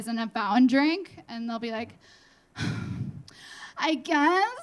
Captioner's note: sighing